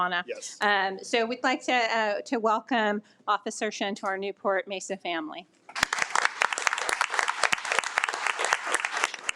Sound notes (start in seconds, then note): 5.7 audience clapping